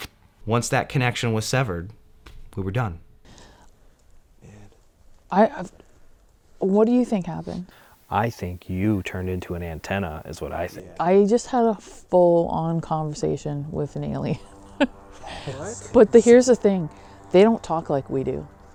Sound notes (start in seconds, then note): 14.3 laughs